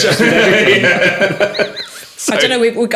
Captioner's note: laughing